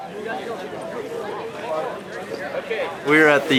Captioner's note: background talking